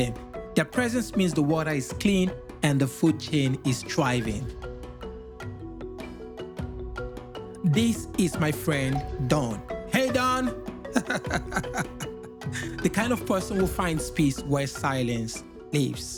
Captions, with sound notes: Their presence means the water is clean and the food chain is thriving. This is my friend Don. Hey Don! [laughing] [laughing continues] The kind of person who finds peace while silence leaves.